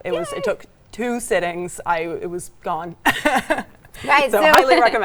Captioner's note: chuckles